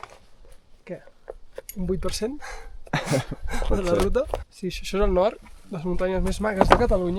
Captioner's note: laughs